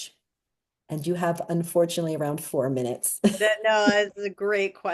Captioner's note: chuckles